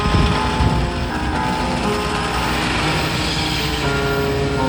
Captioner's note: rollercoaster roars